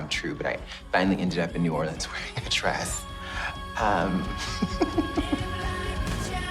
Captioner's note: laughs